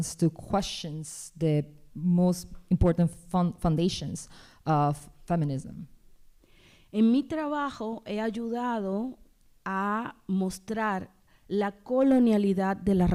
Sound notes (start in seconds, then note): 6.9 speaking spanish